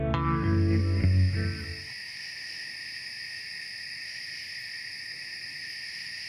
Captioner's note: various insects calling at night